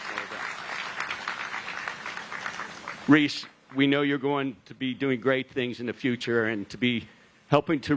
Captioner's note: applause